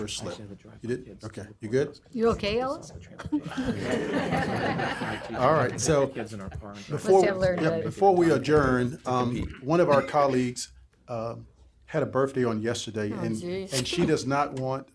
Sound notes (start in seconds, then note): 7.2 laughter